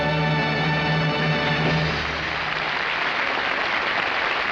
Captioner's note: audience applauding